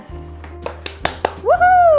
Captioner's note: hands clapping